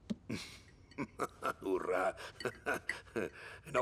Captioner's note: chuckling